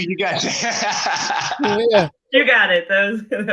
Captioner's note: laughing